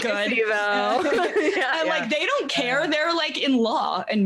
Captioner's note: laughing